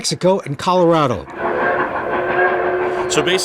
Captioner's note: train chugging; train whistle